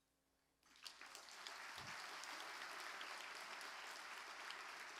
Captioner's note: audience clapping